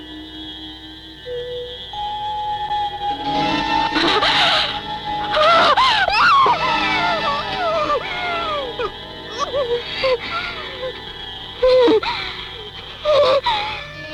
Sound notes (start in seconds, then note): 3.3 gasping; 6.0 screaming; 9.6 whimpering